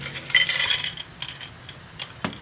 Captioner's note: pencils clatter